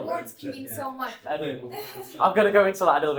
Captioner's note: laughing